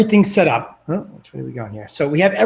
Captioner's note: murmurs